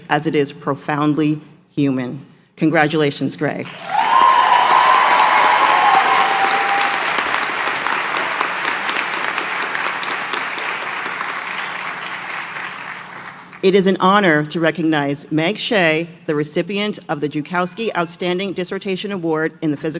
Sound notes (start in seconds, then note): 3.1 applause; 4.1 cheering; 6.0 applause